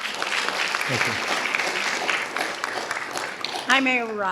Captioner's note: audience applauding